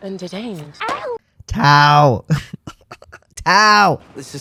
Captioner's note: laugh